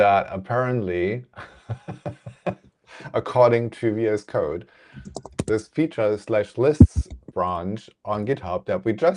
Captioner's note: laughs